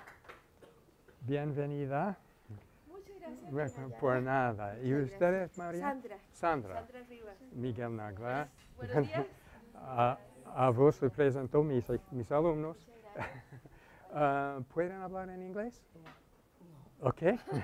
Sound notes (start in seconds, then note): 0.0 applause; 5.2 speaking in Spanish